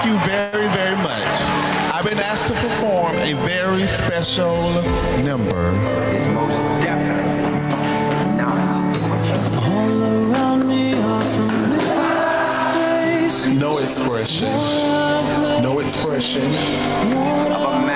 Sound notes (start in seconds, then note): 5.3 slow music; 7.3 footsteps approaching